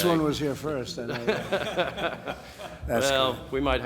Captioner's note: laughter